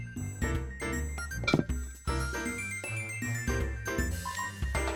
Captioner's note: thunk…